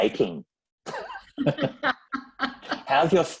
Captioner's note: laughs